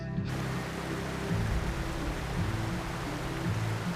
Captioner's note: water whooshing